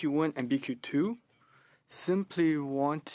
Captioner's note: speaking French